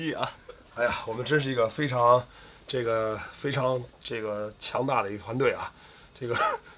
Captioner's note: 哈哈